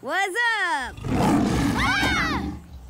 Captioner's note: roars